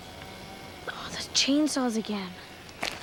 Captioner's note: chain saws whine